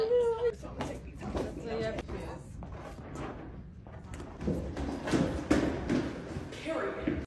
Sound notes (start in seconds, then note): 2.6 footsteps thumping